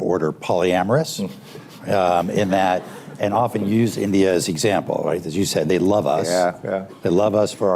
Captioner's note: laughter